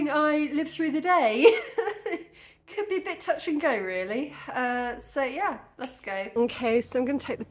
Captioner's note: laughing